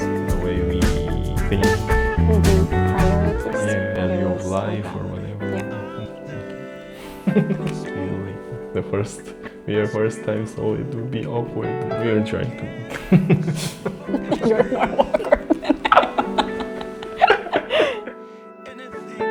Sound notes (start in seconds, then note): 7.8 awkward laugh